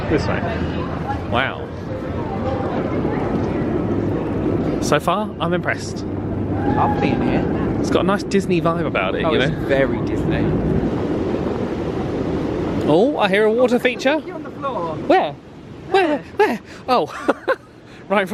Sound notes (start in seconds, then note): 11.4 distant fountain gushing; 17.1 laughs